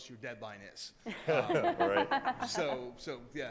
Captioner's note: laughter